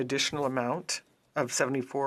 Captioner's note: speaking French